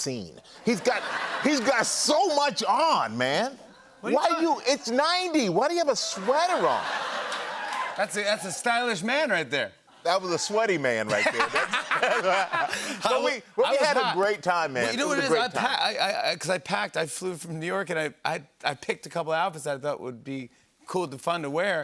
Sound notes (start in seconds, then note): 6.0 laughter; 11.0 laughter